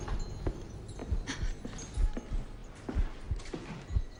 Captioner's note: heart beating